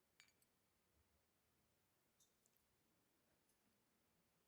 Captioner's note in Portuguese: glasses clink softly